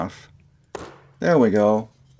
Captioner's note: pop